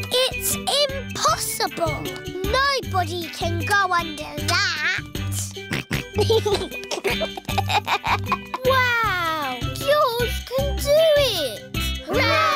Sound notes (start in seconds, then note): 5.4 snorts and giggles